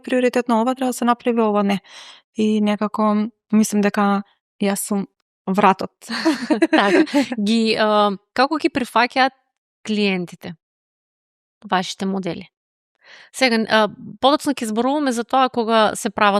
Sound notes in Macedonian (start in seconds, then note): 6.1 смеа